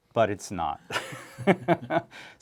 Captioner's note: laughter